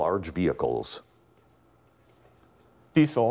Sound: whispering

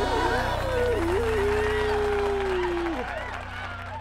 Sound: howling; applause

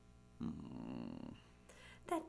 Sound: bear grumbles

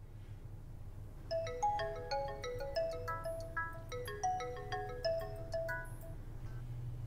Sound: phone rings

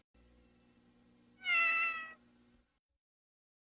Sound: Mimsie mews

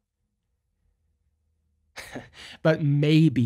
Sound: chuckles

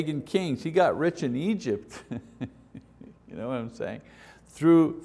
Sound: laughs

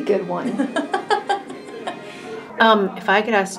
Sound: laughing

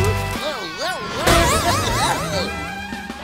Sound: groaning

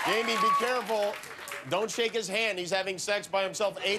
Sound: cheers and applause

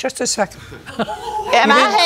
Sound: laughs

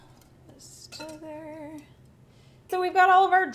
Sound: humming

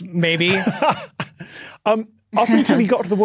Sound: laughs

